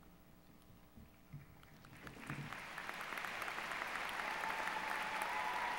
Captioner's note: applause